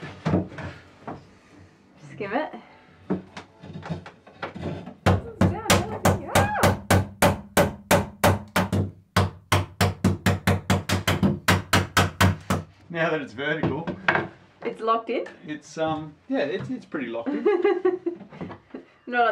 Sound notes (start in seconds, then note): 3.1 wood creaking and scraping; 4.4 hammer loudly banging on wood; 17.7 laughs